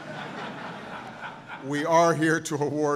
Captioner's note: laughter